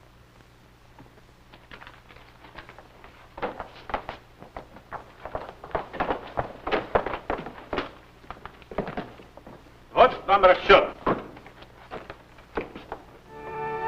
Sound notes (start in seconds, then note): 1.4 footsteps; 9.4 foreign language; 13.2 vintage music